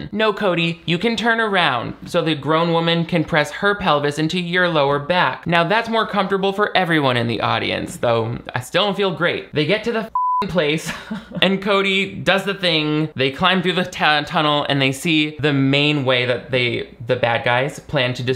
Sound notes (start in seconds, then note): 10.1 beep; 10.8 chuckles